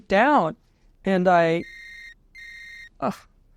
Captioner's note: cell phone ringing